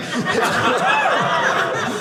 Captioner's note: audience cheering